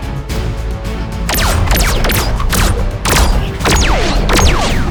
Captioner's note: lasers firing